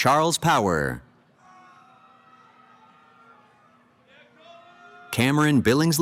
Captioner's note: cheering